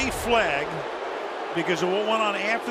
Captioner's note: booing